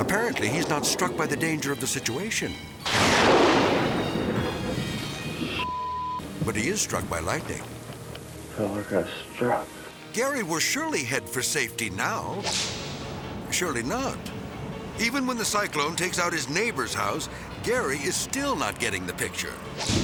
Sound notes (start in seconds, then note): 2.8 thunder crashing; 12.4 whip cracks; 19.8 whip cracks; 19.8 thunder rumbling